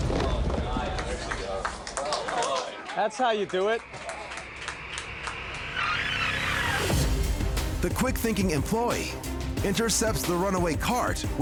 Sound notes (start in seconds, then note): 1.8 cheers and applause